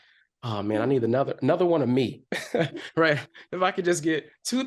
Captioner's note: chuckles